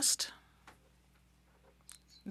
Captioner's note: speaking French